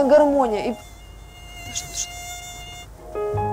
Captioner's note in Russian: писк комара